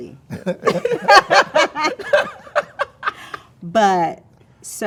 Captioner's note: all laughing